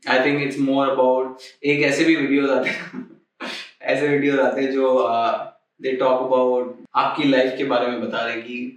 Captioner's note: laughs